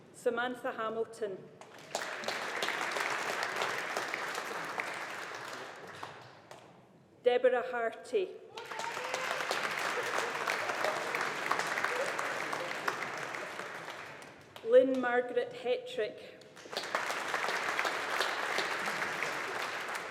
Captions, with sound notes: Samantha Hamilton. (AUDIENCE APPLAUDING) Deborah Harty. (AUDIENCE APPLAUDING) Lynne Margaret Hettrick. (AUDIENCE APPLAUDING)